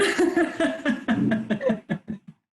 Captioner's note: laughter